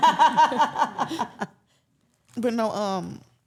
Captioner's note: laughs